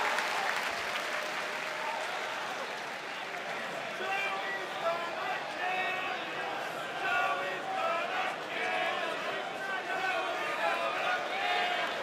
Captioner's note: cheers and applause